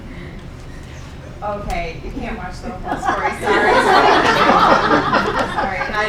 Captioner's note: laughing; laughing